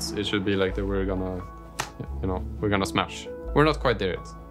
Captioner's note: slaps legs